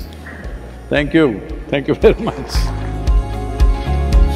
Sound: laughs

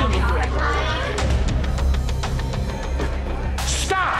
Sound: bar bustling; suspenseful music intensifies

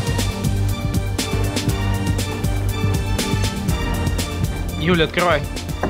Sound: none

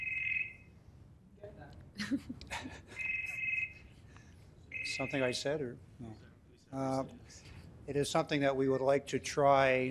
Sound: phone ringing

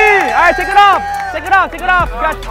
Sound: crowd shouts and claps

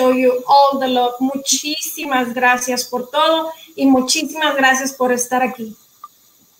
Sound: speaking in foreign language

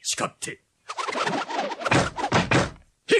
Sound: SFX: flurry of arrows firing

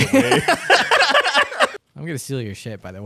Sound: both laughing

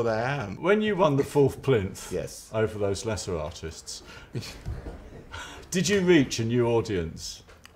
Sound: laughter

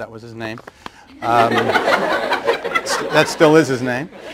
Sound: laughter

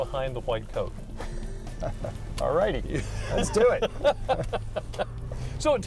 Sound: laughter

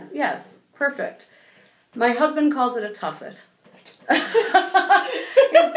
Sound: laughing

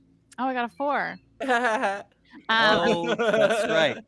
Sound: laughs

